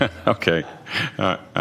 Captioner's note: laughter